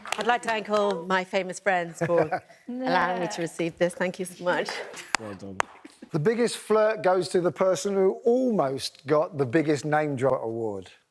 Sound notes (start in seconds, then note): 4.9 claps